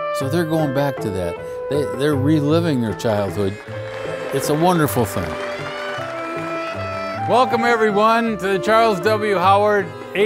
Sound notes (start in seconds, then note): 5.3 applause